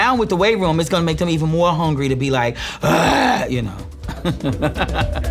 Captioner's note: grunts; laughing